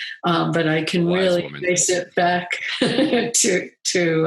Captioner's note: chuckles